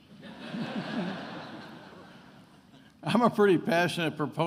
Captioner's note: attendees laughing